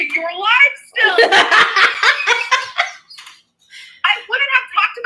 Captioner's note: Destiny laughs